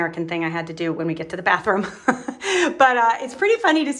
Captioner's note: laughs